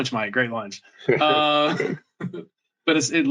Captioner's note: laughter